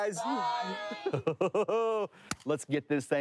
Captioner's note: chuckling